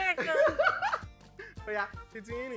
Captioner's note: laughs